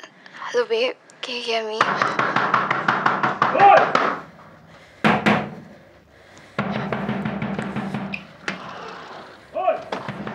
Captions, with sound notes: -Hello babe, can you hear me? -(heavy knocking) OI! (knocking continues) Oi!